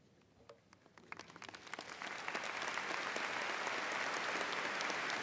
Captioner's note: audience applauding